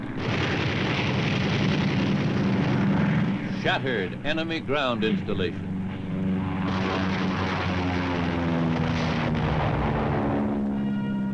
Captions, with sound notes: (machine gun firing) Shattered enemy ground installations. (engine buzzes)